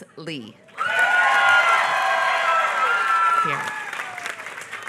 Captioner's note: applause